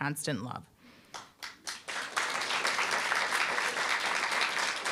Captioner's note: applause